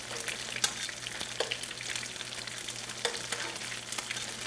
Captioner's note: oil sizzling